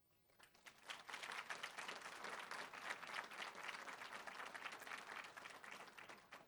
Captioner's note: applause